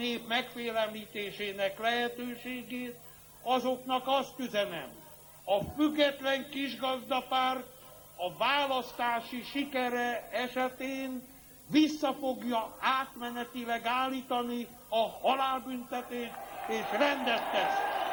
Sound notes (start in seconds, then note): 14.3 applause